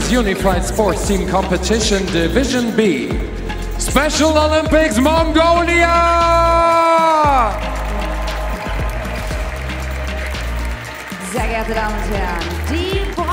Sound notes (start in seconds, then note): 8.3 audience "oooooohs"